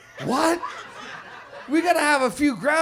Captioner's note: audience laughs